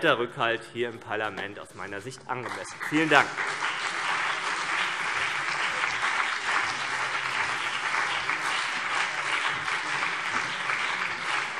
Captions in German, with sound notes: Rückhalt im Parlament angemessen. - Vielen Dank. [Beifall CDU und BÜNDNIS 90/DIE GRÜNEN]